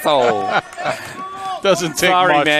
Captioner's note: laughing